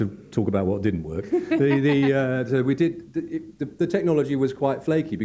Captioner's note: laughs